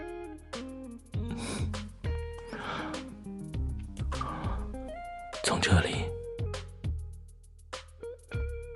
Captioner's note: bites and kisses gently